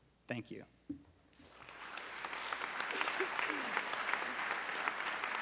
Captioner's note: audience applauding